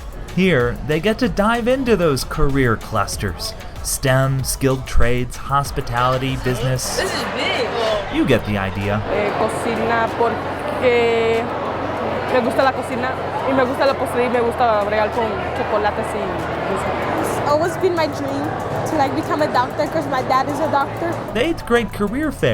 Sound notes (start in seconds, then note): 9.2 Spanish